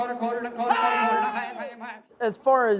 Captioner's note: man yells